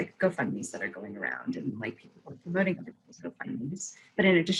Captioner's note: voice muffling